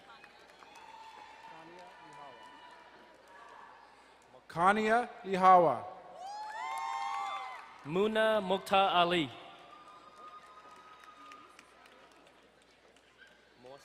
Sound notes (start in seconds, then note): 0.1 distant cheering; 6.3 crowd cheering and applauding; 9.9 distant cheering